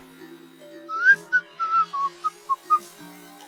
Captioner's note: Tuttle whistling